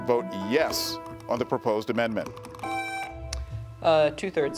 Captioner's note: buzzer beeps